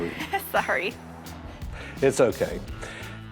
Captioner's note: laughs